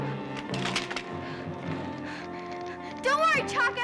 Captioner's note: sticks clattering